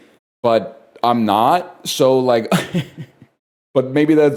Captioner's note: chuckles